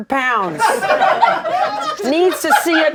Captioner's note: laughter